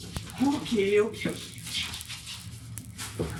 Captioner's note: taser buzzing